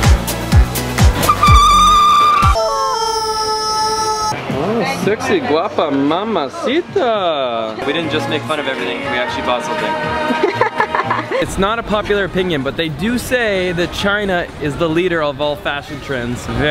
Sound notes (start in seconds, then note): 1.1 tires screeching; 3.3 rubber chickens squeaking; 10.3 laughing